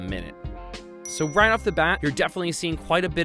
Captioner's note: dings